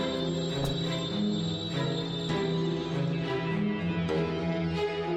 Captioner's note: bundles thudding